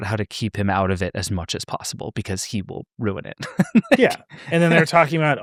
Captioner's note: laughs